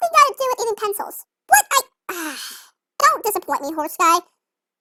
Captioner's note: sighs